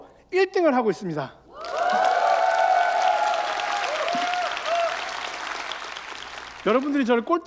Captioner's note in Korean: 박수와 환호